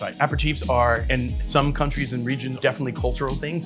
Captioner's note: none